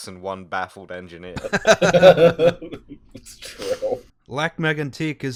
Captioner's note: laughter